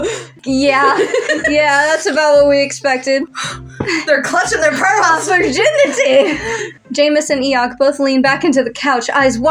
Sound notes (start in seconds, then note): 0.6 laugh; 4.7 laugh; 5.1 snicker